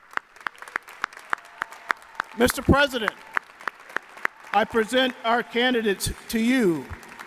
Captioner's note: applause